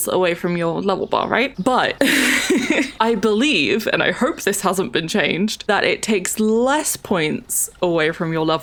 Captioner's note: laughs